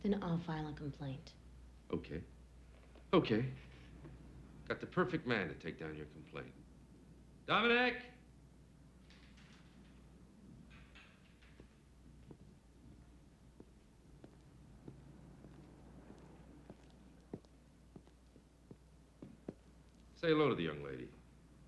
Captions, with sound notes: - Then I'll file a complaint. - Okay. Okay. Got the perfect man to take down your complaint. Dominic! (bars clattering) Say hello to the young lady.